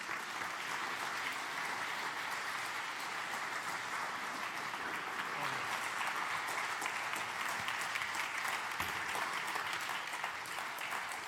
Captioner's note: applause